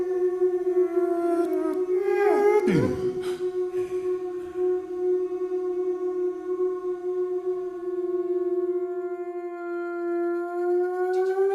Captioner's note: short bursts of humming